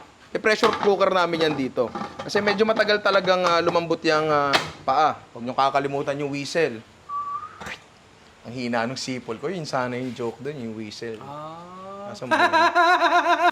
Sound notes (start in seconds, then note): 7.0 whistles; 12.1 laughs